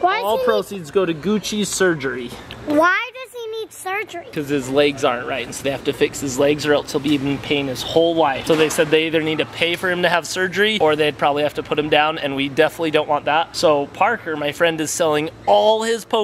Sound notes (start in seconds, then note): none